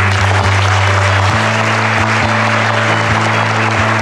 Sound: applause and music

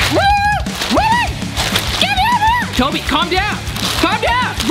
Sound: yelling

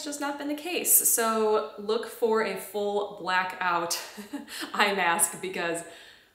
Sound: chuckles

